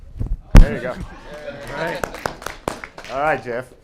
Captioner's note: applause